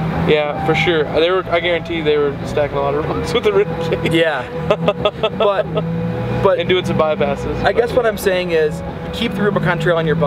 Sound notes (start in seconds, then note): 3.3 chuckles; 6.7 laughs